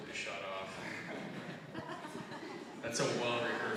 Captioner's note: audience chuckling